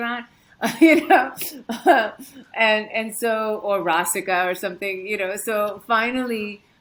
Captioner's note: chuckles